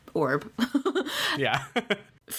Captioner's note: laughs